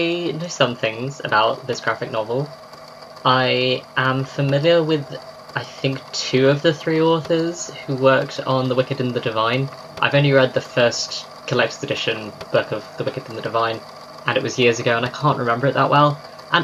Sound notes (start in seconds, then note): 9.5 tape recorder clicks off